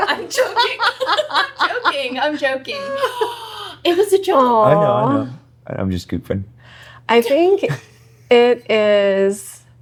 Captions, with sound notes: No, I'm joking. (laughing) I'm joking, I'm joking. It was a joke. I know, I know. I'm just scooping. I think it is--